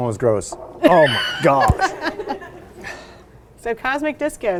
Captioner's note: laughing